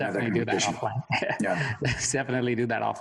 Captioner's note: chuckles